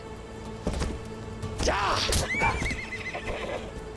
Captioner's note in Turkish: At kişneme sesi